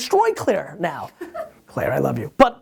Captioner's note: laughs